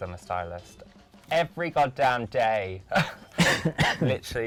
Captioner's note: laughs